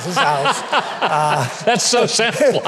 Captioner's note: Mike laughing